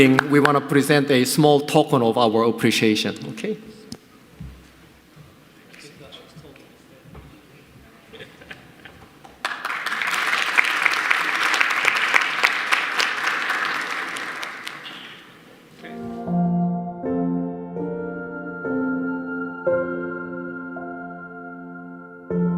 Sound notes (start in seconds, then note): 9.3 audience applauding; 15.8 gentle piano music